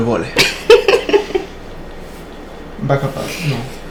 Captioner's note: laughing